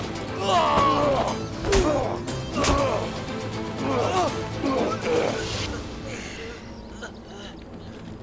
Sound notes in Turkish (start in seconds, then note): 0.0 Müzik - Hareketli; 3.8 Dövüş sesleri